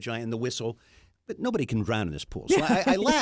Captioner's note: laughs